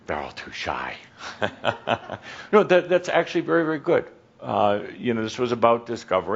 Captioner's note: some chuckles; Adamus chuckles